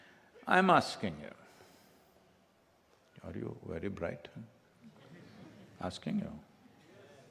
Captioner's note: few laugh